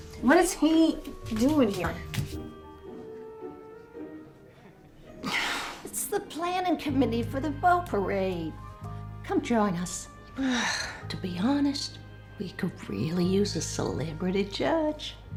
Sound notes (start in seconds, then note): 5.2 sighs; 10.4 sighs